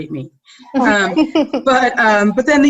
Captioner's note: laughing